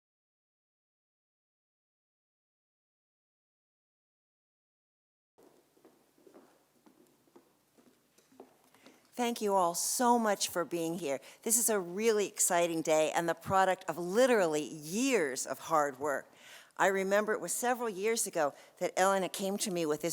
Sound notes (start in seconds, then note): 5.4 footsteps approaching